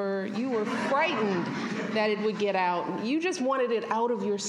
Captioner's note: laughter